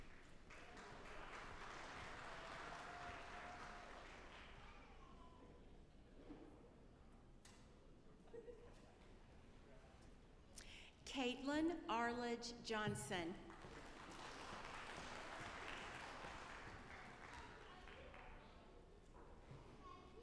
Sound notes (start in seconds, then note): 0.0 audience applauding; 13.4 audience applauding